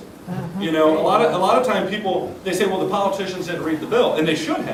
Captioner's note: sounds of approval